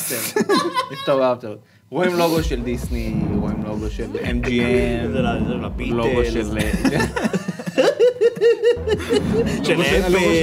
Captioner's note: snickers